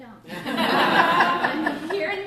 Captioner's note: laughter